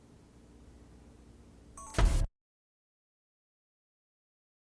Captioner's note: camera beeps